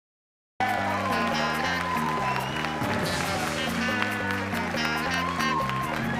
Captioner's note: applause